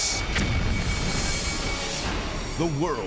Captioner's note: logo swooshing